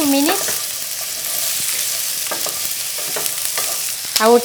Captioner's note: sizzling